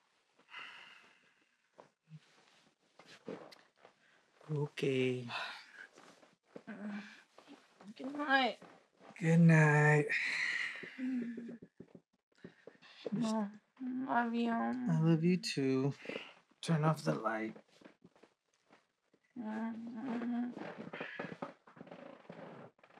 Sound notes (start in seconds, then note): 0.1 bed squeaks, he sighs; 10.0 he sighs; 19.8 she moans, bed squeaks, he sighs